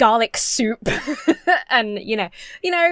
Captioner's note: laughs